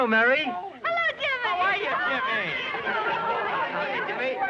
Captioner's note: all chattering